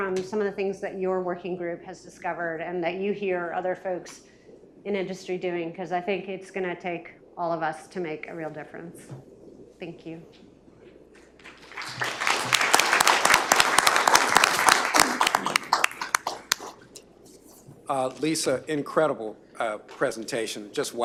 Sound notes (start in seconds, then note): 15.7 applause